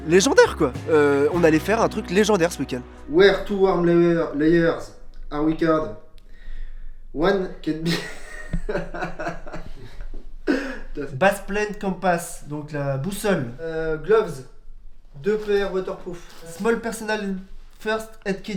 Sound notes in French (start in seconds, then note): 10.5 rires